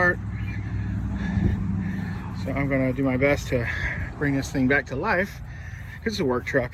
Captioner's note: sigh